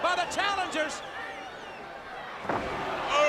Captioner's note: crowd cheering